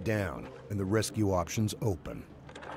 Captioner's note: voiceover